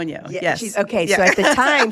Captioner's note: laughs